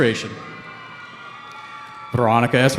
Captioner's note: cheering